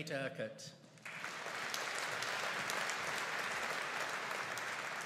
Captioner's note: audience applauding